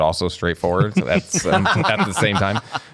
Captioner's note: laughter